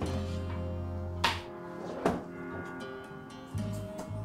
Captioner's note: glass clanks